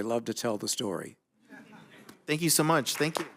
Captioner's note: applause